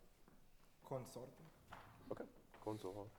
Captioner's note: speaking in foreign language; speaks foreign language